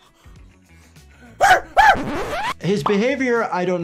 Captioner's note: Speedy whooping